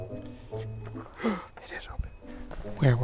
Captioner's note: gasps